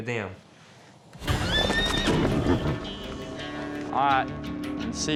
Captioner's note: neighs wildly